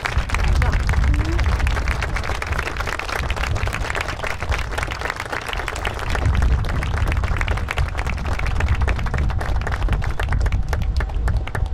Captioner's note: applause